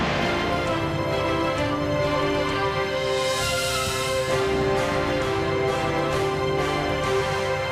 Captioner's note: applause